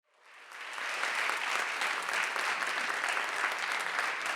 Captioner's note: audience applauding